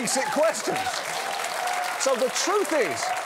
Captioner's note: cheering